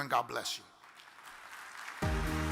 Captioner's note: audience claps; upbeat music